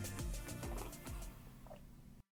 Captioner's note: gulping